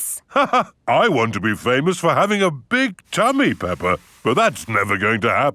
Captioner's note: laughs